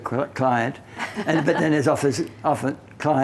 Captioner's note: both laughing